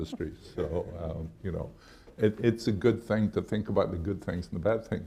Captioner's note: laughs